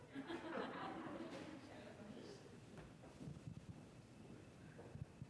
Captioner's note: congregation laughing